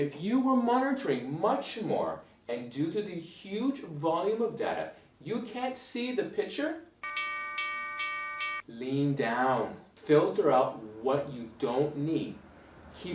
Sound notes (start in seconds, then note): 7.0 alarm rings